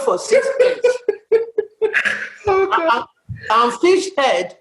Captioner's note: laughter